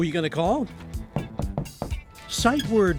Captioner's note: teacher knocking on door